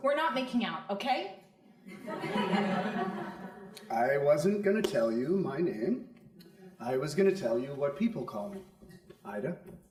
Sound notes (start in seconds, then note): 1.8 crowd laughing